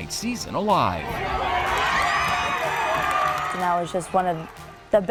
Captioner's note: crowd cheering